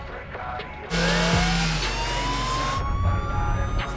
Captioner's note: police siren wailing